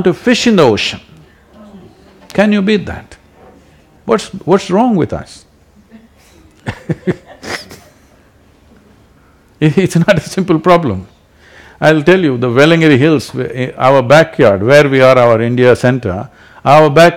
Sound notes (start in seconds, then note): 5.8 few Laugh; 5.8 laughs